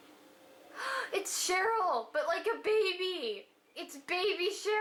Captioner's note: gasps